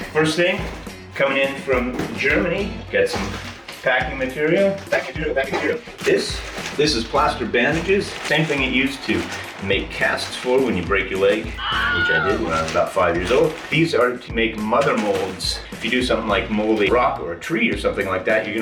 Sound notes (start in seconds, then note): 11.5 scream